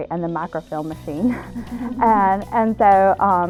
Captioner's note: laughter